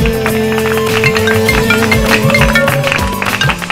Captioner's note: Phone rings